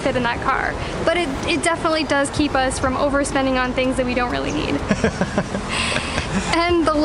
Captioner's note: laughter